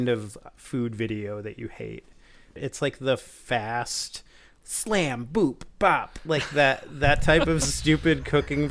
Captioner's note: enunciating